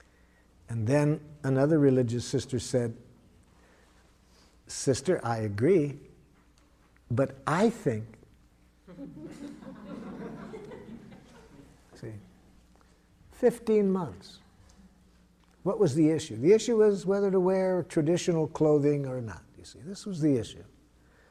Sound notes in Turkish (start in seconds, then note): 8.8 Gülüşmeler